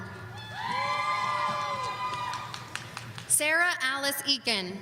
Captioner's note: audience cheering